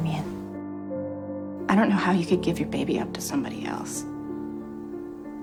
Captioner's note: voiceover; voiceover